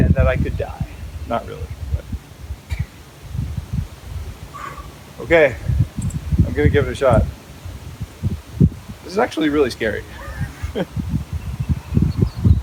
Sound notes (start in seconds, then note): 4.4 sighs; 9.1 laughs